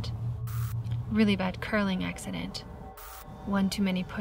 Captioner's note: static crackles